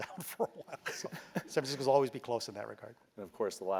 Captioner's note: laugh